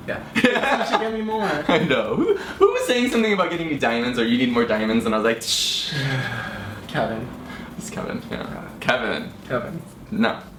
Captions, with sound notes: - Yeah, you should get me more! - I know. Who was saying something about getting you diamonds, or you need more diamonds, and I was like (shushes) - Kevin. - It was Kevin, yeah, Kevin. - Kevin.